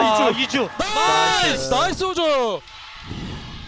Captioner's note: BuZz